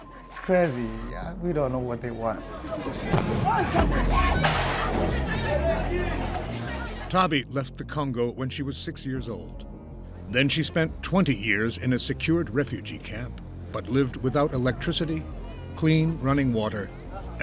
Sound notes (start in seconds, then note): 3.1 explosions blaring; 3.1 everyone shrieking